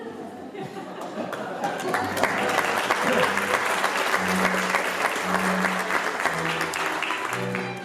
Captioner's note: applause, music